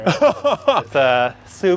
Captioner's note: chuckles